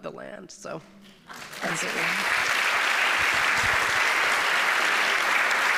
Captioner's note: audience applauding